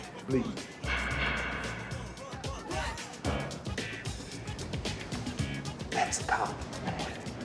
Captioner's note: police baton knocking against railing